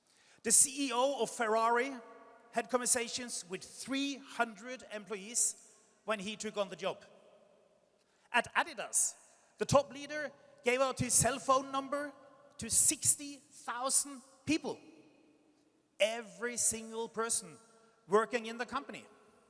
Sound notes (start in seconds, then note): none